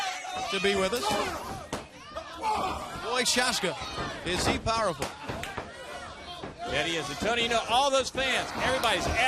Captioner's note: crowd chatter